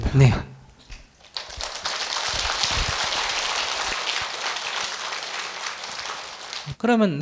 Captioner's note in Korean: 청중 박수